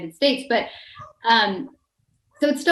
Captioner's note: dog barking